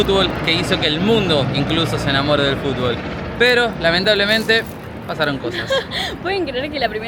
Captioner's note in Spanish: risas